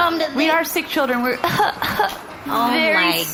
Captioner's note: coughing